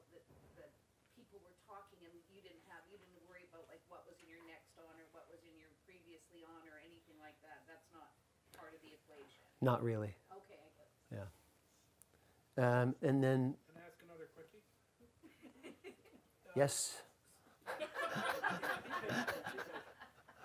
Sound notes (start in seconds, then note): 10.5 voiceover; 13.7 voiceover; 17.7 audience laughs